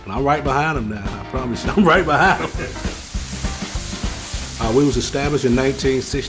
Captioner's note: laughs